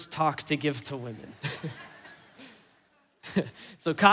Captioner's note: congregation laughing; laughing